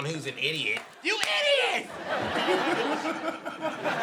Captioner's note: audience laughing; laughing